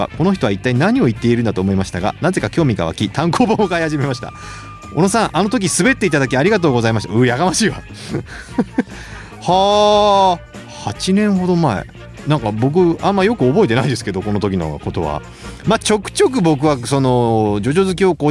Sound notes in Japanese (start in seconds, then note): 7.9 笑い